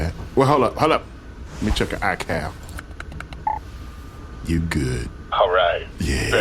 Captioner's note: typing, beat